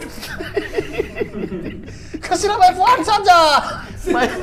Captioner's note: laughing